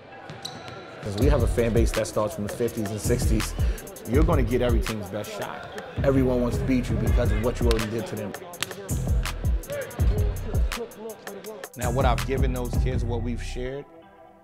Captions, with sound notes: 'Cause we have a fan base that starts from the '50s and '60s, you're gonna get every team's best shot. Everyone wants to beat you because of what you already did to them. (overlapping chattering) Now, what I've given those kids, what we've shared,